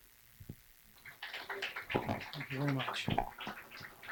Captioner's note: clapping